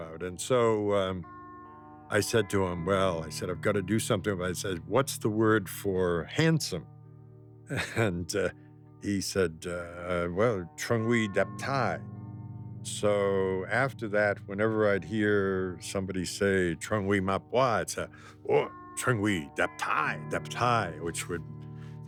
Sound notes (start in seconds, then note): 7.7 laughs; 9.3 speaking foreign language; 16.9 speaking foreign language